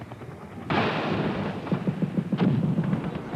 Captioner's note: munitions firing